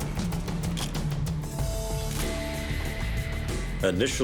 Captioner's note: camera shutter click